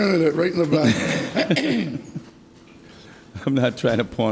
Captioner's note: everyone laughs